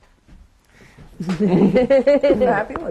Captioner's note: laughter